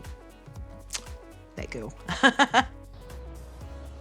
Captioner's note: laughs